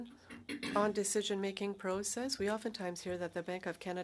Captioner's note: speaking French